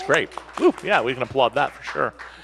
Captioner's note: audience applauds